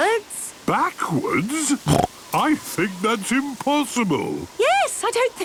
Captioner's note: snorting